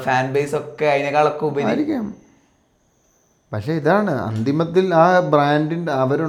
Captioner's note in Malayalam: തൊണ്ട ശരിയാക്കുന്നു